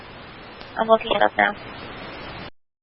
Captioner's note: radio traffic